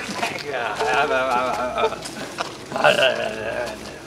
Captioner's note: gibberish, laughing